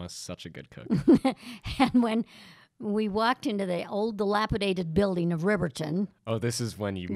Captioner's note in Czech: Chichotá se